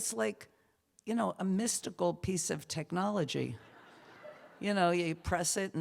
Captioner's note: laughter